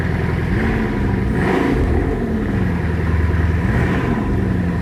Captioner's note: engine revs